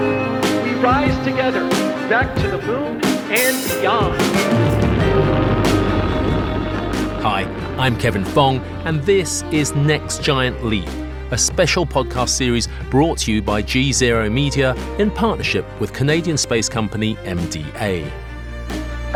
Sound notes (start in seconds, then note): 3.8 rocket rumbles; 4.6 dramatic music